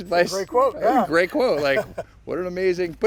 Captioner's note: laughs